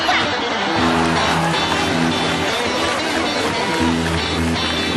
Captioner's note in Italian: applausi e risate